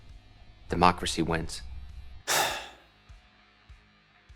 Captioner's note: takes a long exhale